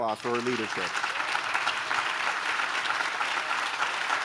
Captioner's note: audience claps